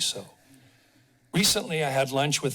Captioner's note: pause